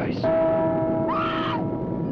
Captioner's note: bell chiming; Pat screaming